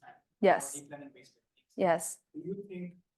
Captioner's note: student speaking faintly